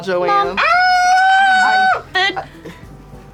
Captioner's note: screams